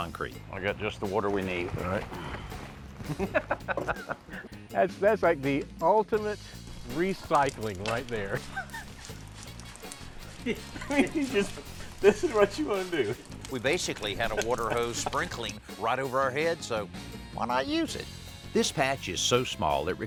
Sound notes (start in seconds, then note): 3.0 laughs; 10.2 laughs; 10.2 chuckles